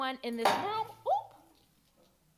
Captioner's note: object clunks